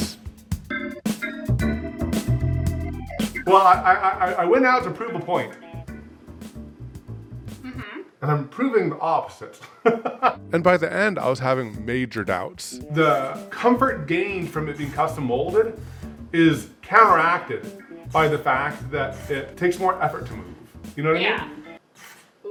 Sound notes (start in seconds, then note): 0.0 upbeat music; 7.7 humming